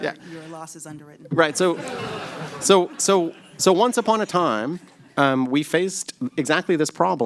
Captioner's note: laughter